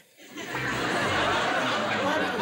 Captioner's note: laughter